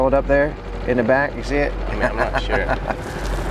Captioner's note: laughs